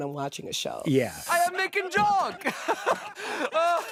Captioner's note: laughs